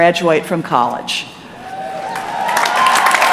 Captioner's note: applause